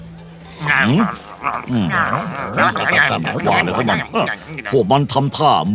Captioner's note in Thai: ภาษาก็อบลิน